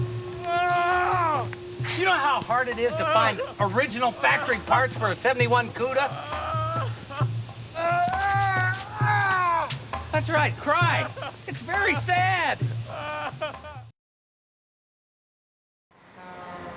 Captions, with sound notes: (groaning continues) Do you know how hard it is to find original factory parts for a '71 'Cuda? (man crying) That's right, cry. It's very sad.